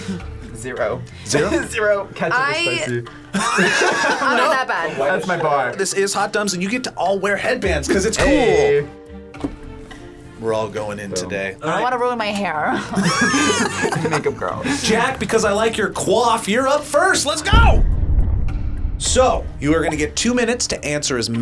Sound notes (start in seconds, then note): 3.3 group laughs; 12.7 group laughs; 17.5 explosion echoes